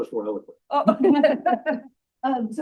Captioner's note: laughter